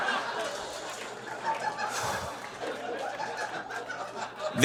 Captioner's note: audience laughs uproariously; scattered applause; sighs